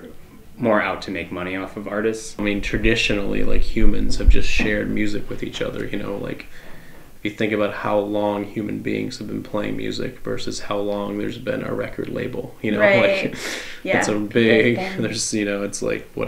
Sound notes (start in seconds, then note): none